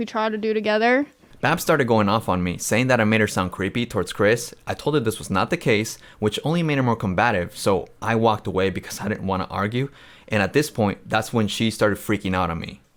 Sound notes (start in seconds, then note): none